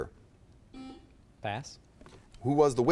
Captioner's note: buzzer chimes